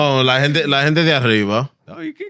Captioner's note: speaking In Foreign Language